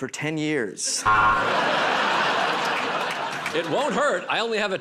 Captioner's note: buzzer